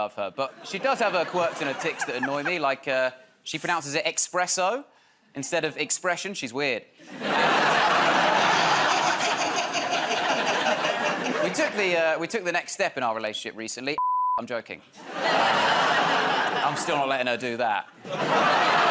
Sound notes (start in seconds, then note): 8.6 laughter; 18.0 laughter